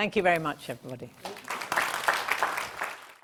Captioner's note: audience applauds